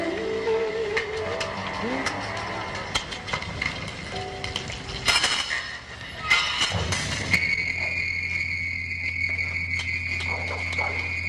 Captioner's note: clattering, high pitched whine